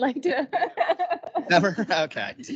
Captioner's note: laughing